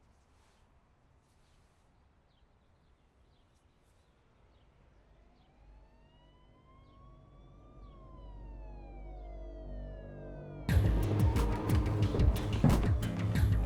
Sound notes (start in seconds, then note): 5.4 sirens blaring; 10.1 intense music